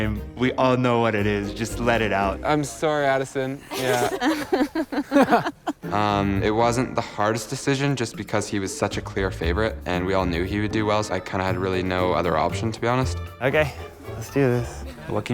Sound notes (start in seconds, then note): 3.5 laughing